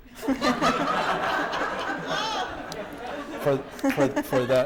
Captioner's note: laughter